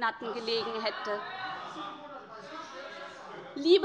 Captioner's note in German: Zurufe von der SPD